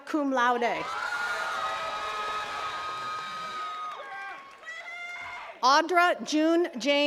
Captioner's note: attendees cheering and clapping